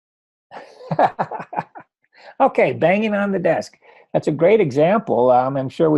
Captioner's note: laughs